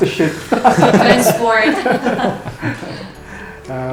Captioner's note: laugh; laughs